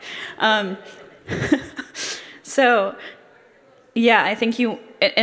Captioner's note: laughs